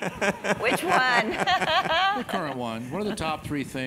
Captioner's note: laugh